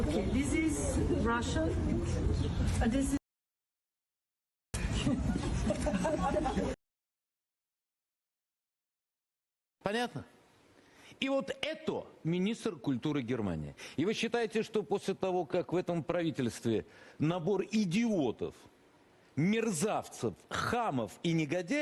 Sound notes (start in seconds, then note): 4.8 laugh